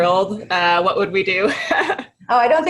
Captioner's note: laughs